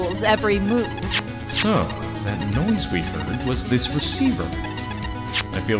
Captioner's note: device beeping